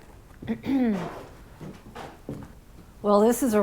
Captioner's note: clears throat